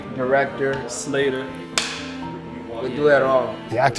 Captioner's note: clapboard snapping